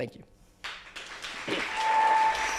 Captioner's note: clapping